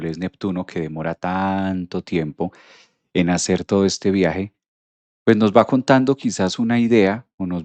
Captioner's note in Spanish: resoplido